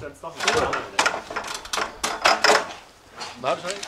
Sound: clattering, talking

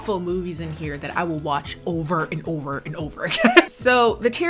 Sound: laughs

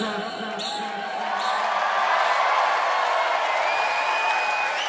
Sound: audience cheering

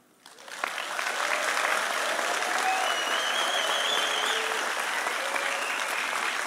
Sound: audience applauding; audience cheering

